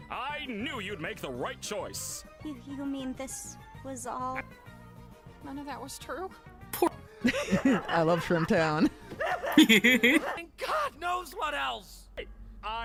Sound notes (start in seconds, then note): 9.2 laughing maniacally; 9.9 laughing